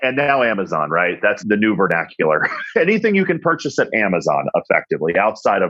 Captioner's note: laughs